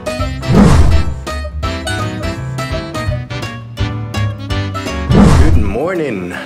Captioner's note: upbeat happy music; whooshing